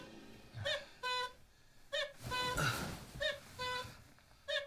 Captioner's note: alarm squeaks cuckoo